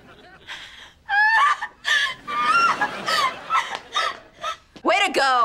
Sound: sobbing

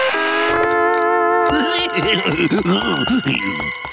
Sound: snickering

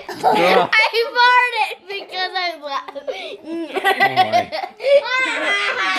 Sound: laughing

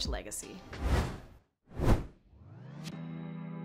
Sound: whooshes; emotional music

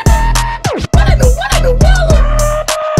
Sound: record Stop

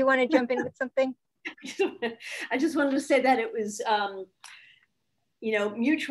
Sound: laughs

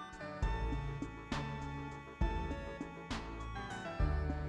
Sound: none

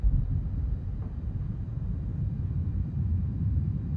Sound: thunder rumbling

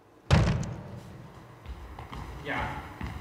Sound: door slams

